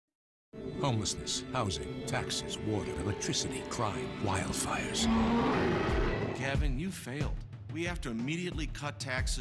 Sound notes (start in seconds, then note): 4.4 sfx: bear roar